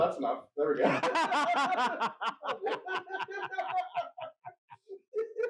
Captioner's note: both hee-haw